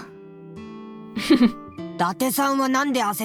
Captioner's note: chuckles